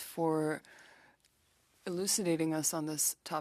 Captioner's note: speaking French